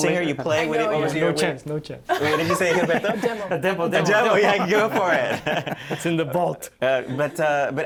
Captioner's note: laughter